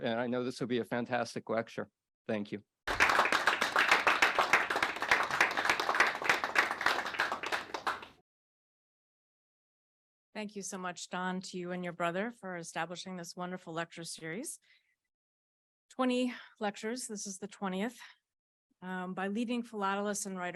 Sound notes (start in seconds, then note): 2.8 audience applauds